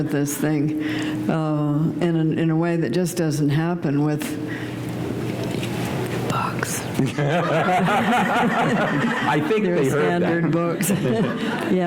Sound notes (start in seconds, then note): 5.2 laughter